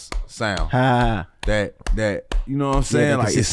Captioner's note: chuckles